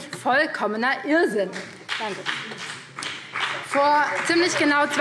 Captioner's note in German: Beifall BÜNDNIS 90/DIE GRÜNEN, vereinzelt CDU, SPD und DIE LINKE